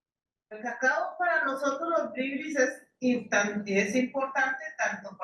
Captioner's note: speaking in foreign language